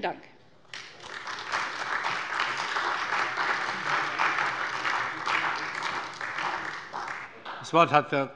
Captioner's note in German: Beifall bei der CDU und dem BÜNDNIS 90/DIE GRÜNEN